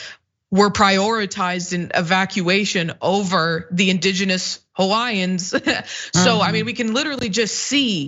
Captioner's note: laugh